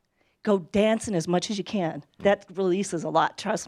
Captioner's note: none